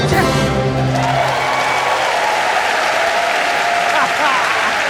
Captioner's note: audience cheering